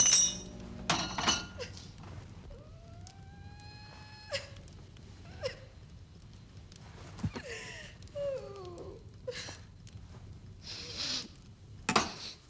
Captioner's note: girl sobs